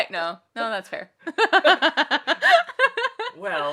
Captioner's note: laughs